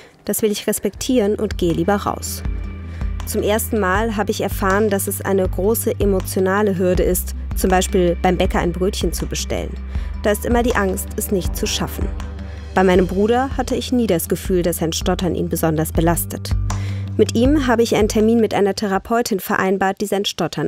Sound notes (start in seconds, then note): none